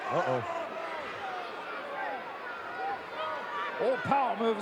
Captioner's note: audience cheering